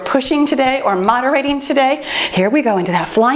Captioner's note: timer beeps